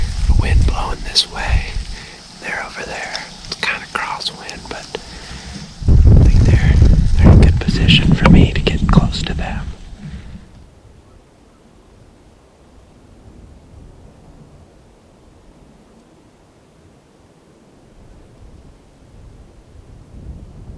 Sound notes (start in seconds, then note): 9.6 natural noises